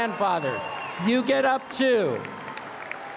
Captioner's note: applause